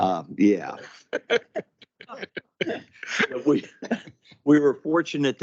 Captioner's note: laughing